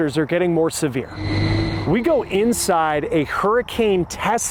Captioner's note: motors humming